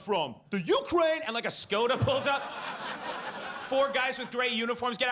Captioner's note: audience laughs